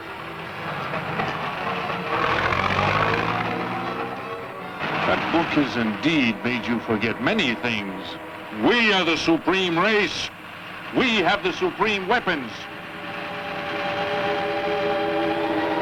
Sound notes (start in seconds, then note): 0.6 car revving; 14.0 eerie music